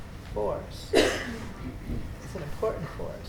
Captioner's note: coughs loudly